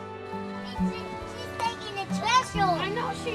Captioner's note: child speaking